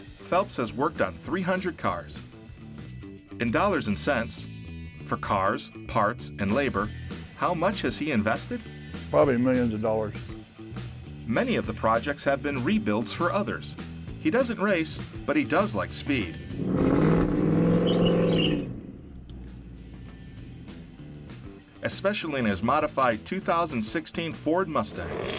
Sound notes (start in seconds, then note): 16.0 engine roaring; 24.8 engine revving